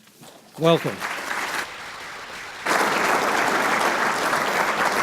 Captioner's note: applause